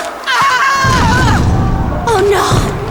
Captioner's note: dying screams